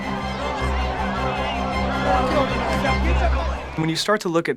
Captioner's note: shouts and commotion from crowd